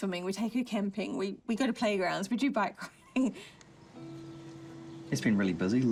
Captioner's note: chuckles